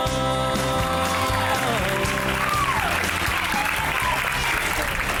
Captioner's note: cheerleaders cheering